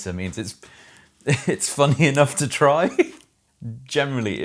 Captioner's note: laughs